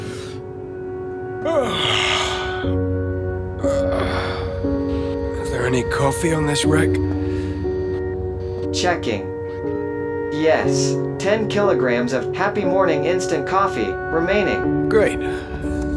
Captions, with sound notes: (yawn) Is there any coffee on this wreck? Checking. Yes, 10 kilograms of Happy Morning Instant Coffee remaining. Great.